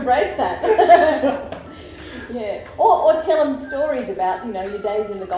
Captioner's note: laughter